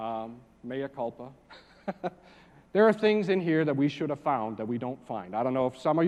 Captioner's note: laugh